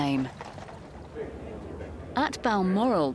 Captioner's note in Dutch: mensen kletsen